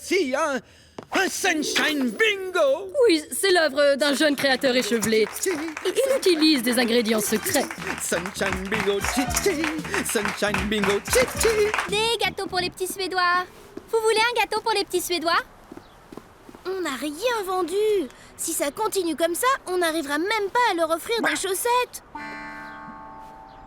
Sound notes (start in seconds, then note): 8.9 applause